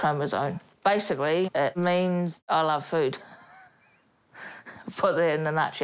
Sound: laughs

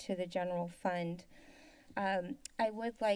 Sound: inhales

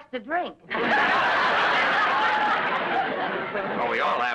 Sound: audience laughs

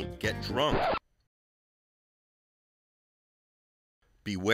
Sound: record scratches

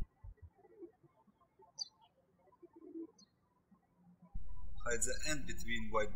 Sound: birds chirping

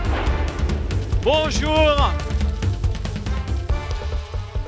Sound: speaking french

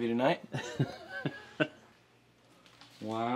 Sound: laughing

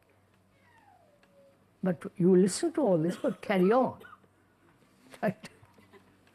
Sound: laughs

